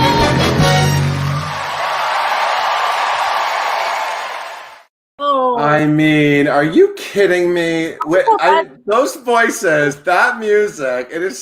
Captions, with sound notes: (audience cheering) - Ooh! - I mean, are you kidding me? Those voices, that music.